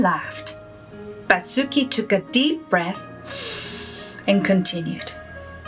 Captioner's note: breathes in heavily